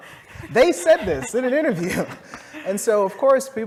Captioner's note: laugh